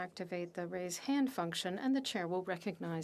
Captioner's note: speaking French